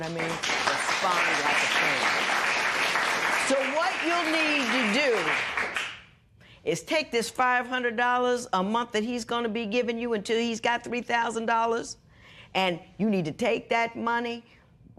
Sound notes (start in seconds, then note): 2.7 applause